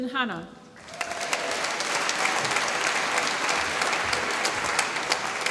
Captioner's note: applause